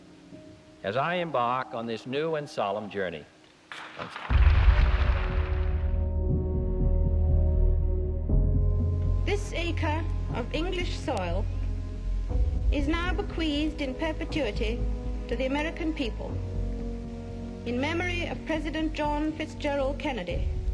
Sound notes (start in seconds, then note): 3.7 applause; 5.8 solemn music playing